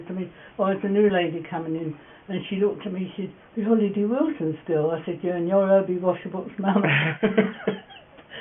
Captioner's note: laugh